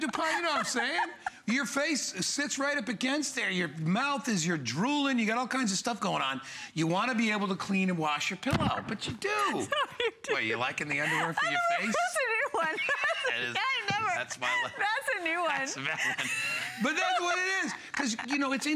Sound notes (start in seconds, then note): 12.4 laughter